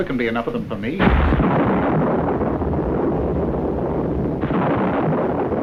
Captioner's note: thunder roaring